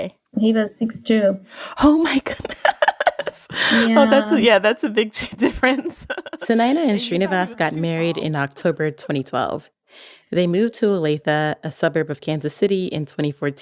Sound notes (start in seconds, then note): 2.2 laughs